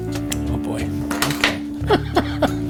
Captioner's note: clattering